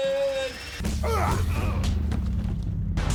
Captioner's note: fighting grunts